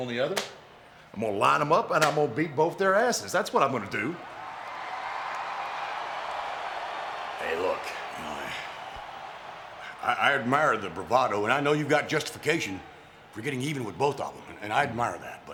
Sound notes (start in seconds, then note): 4.6 crowd cheering